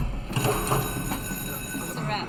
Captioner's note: bell ringing